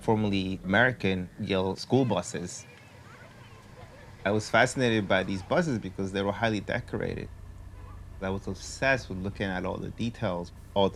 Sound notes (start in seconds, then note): none